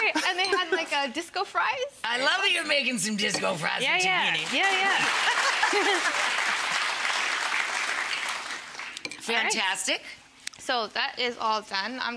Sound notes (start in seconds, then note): 5.7 audience clapping